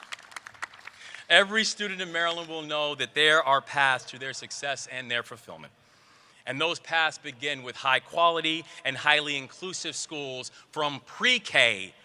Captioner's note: applause